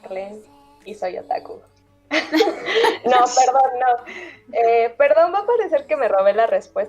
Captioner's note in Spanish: risas